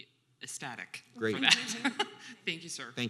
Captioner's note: chuckles